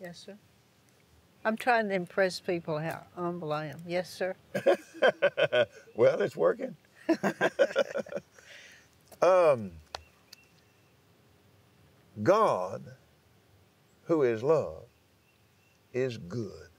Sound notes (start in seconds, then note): 4.5 laughs